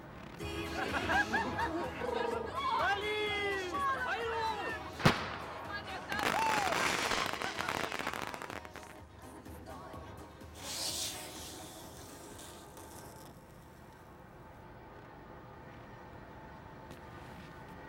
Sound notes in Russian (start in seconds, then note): 5.0 Выстрел петарды